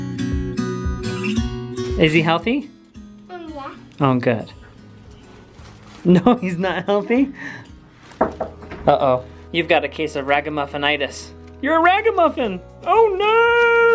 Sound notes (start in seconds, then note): 8.2 hand knocking